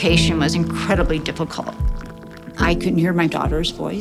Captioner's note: water pouring